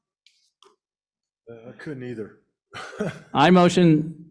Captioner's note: laughs